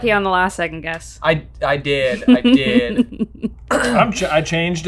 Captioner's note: laughing